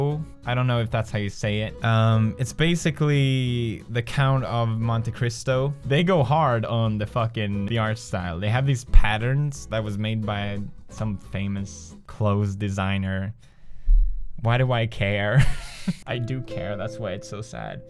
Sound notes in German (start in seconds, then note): 15.4 lacht